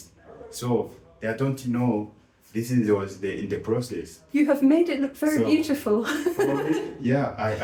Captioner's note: laughing